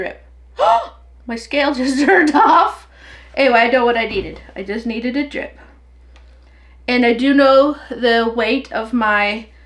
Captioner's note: gasp